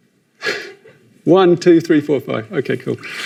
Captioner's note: chuckles